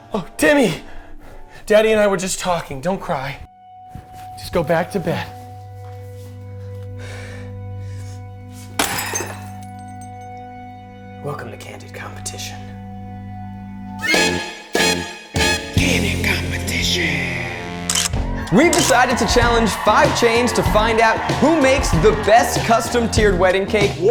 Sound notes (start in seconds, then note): 6.8 sniffs; 8.7 glass smashes; 13.8 horns blare